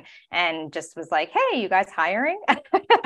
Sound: laughing

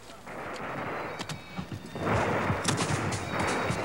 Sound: gun firing

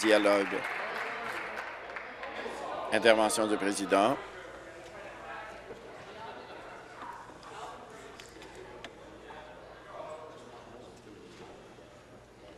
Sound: applause

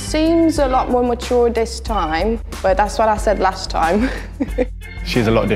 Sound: laughs

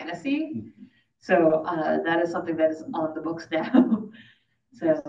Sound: laughs

